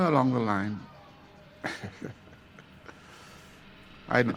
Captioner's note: chuckles